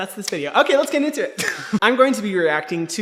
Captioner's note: laughs